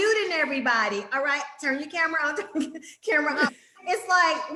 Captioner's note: laughs